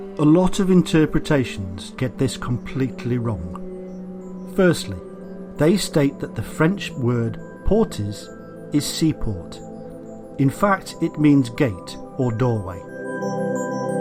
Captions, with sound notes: A lot of interpretations get this completely wrong. Firstly, they state that the French word [FRENCH] is seaport. In fact, it means gate or doorway.